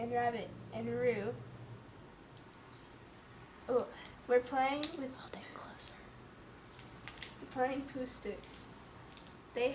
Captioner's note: whispering